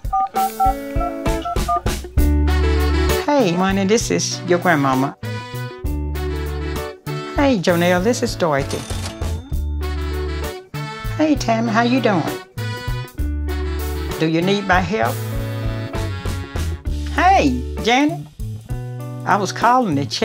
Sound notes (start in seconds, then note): 0.1 phone dialing; 8.6 register bells ring